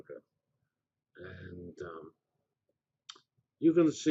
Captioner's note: pause